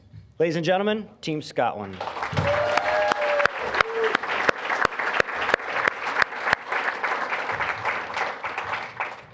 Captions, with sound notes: Ladies and gentlemen, Team Scotland. (applause, cheering) (applause)